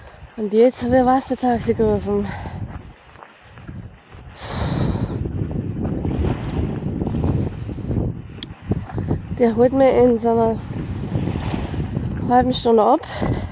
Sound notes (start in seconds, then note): 4.4 sigh & Wind; 13.2 wind & waves